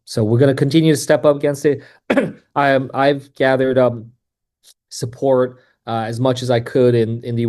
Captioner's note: coughs